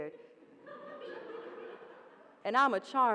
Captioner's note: audience laughing